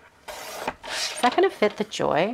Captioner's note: blade slicing